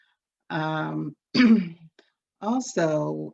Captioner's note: clears throat